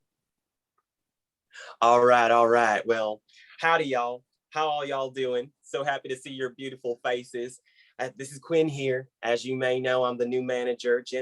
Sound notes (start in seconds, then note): 1.2 southern voice